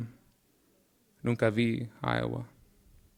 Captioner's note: speaking in Spanish